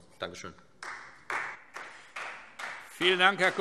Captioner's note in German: Beifall Freie Demokraten